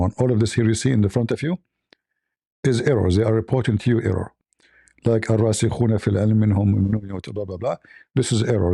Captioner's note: reads in Arabic